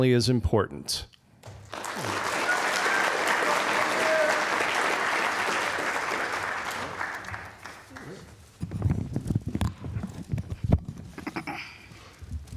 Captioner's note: applause